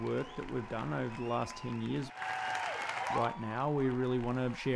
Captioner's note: audience continues cheering